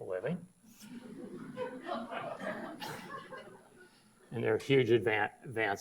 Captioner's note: audience laughs